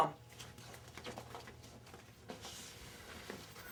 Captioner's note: footsteps